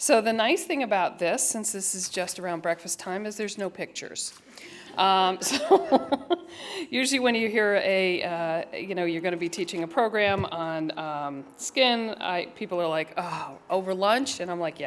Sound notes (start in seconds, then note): 5.4 laughter